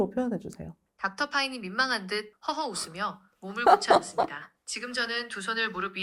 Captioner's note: laughs sheepishly and readjusts his posture